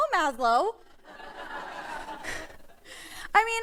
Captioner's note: laughter